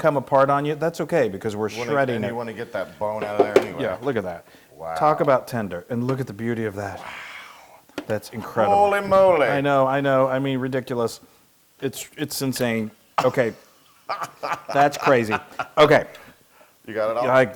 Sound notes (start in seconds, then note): 14.0 laugh